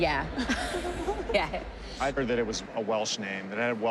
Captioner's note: chuckling